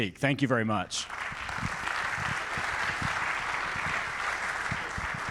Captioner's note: audience applauding